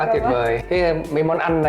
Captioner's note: laughing